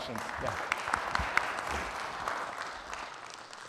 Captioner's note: audience applauding